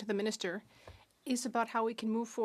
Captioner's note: speaking French